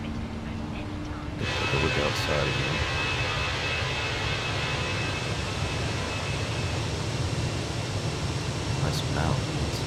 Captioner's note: radio chatter